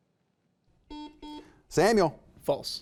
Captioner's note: buzzer beeping